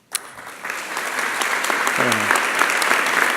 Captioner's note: applause